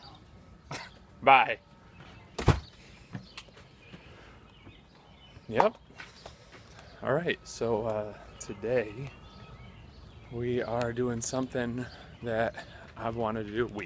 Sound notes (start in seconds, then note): 0.7 laughs; 4.5 exhales deeply